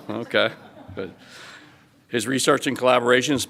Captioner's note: audience laughs